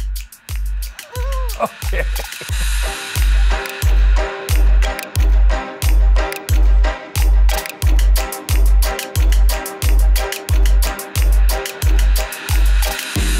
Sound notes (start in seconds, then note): 1.0 laughs; 2.9 upbeat eerie music